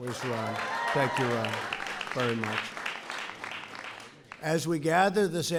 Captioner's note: applause